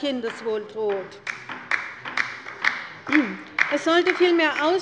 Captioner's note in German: Beifall bei der LINKEN